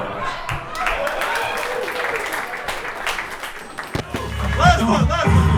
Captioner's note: audience applauding